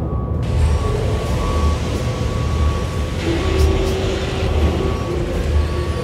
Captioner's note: construction commotion